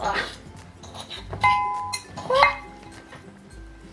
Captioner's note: clang